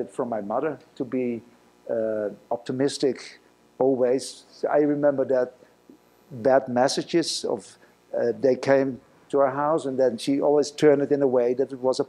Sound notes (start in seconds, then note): none